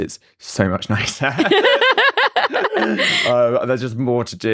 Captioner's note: both laugh